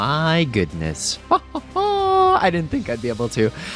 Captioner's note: laughs